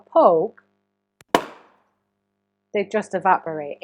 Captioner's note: balloon popping